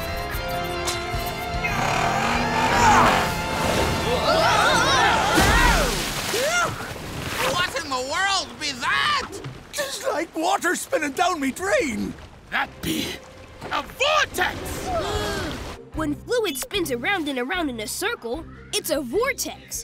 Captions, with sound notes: [grunting] Whoa! Phew, what in the world was that? Just like water spinning down my drain! That be a vortex! When fluid spins around and around in a circle, it's a vortex!